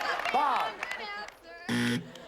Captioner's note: buzzer